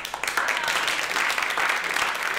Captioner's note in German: Applaus